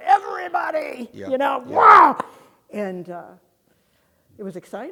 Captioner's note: grunts